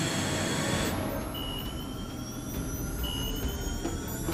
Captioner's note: radar chiming